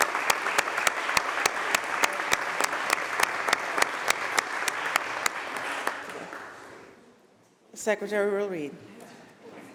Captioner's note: applause